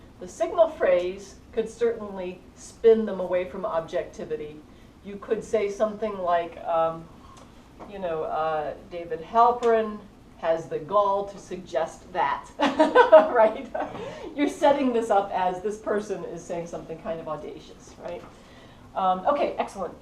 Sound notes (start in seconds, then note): 12.6 laugh